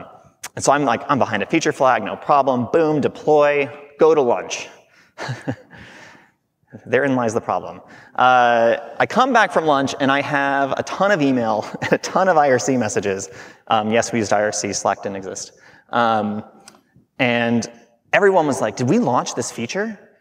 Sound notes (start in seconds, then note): 5.2 chuckling